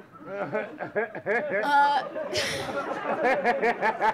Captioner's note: audience laughing